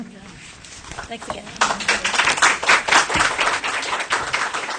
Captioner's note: applause